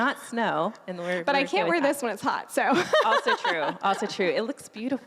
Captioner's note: laughing